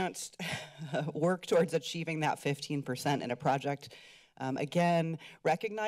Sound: chuckles

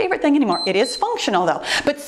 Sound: timer beeps

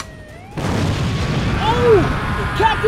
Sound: rocket launcher clicks; shots fired

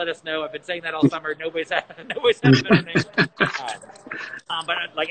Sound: laughing

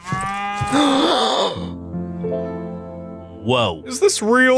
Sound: Porkchop gasps

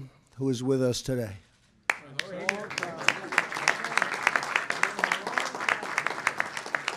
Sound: applause

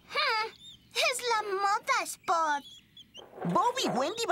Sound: exasperated

